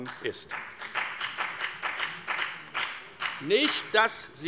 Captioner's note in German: Beifall bei der FDP